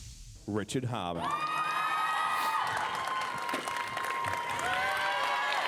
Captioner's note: audience cheering